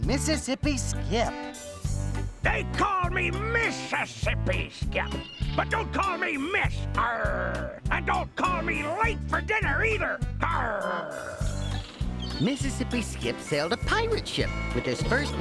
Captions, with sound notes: THEY CALL ME MISSISSIPPI SKIP. BUT DON'T CALL ME "MISS"... ( growls ) AND DON'T CALL ME LATE FOR DINNER, EITHER. ( growls again )